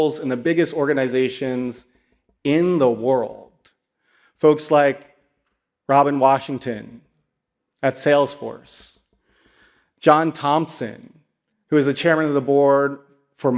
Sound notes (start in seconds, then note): none